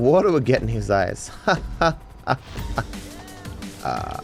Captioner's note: laughs sarcastically